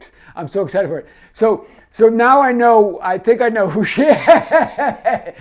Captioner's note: laughs